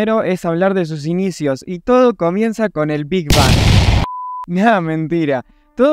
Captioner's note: explosion